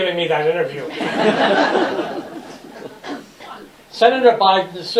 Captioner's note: laughter